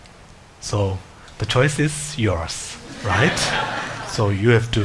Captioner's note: audience laughs